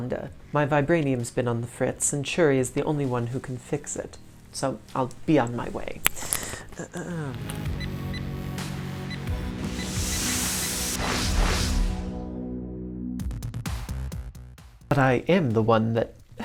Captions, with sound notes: My vibranium's been on the fritz, and Shuri is the only one who can fix it so I'll be on my way. (computer beeps) (air rushes) But I am the one that...